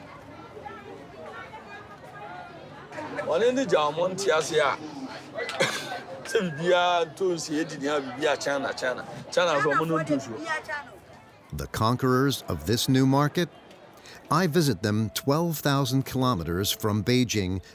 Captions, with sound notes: (speaking in foreign language) The conquerors of this new market. I visit them 12,000 kilometers from Beijing